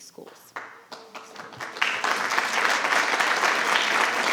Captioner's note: audience applauding